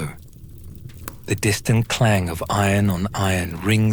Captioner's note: the distant clang of iron on iron